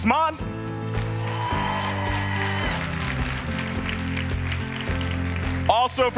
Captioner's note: audience cheering and applauding